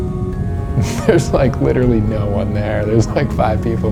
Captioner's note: laughs